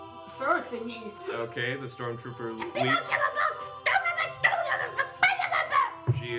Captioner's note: more Ewok yelling